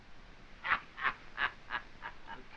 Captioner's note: laughing